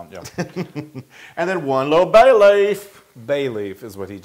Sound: laugh

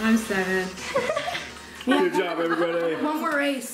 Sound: laughing

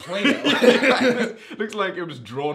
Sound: laughing

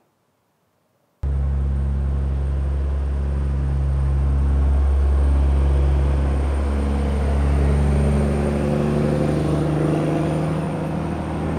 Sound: truck motoring up the hill

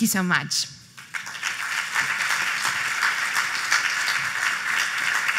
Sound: applause

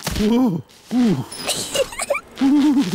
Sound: groans; giggles

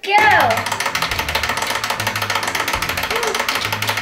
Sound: timer ticking

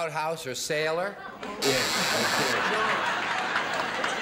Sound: buzzer blares

